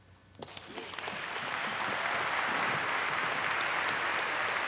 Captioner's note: applause